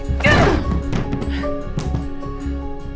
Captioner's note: thumping